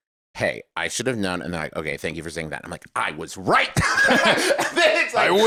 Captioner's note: laughs